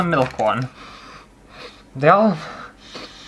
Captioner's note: sniffing